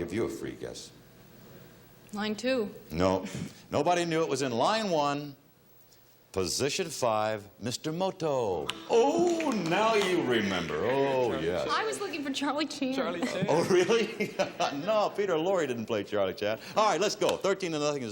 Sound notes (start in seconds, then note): 10.0 gasping; 15.7 laughs